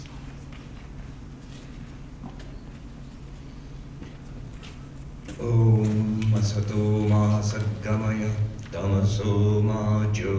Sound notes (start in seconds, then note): 5.0 chants in foreign language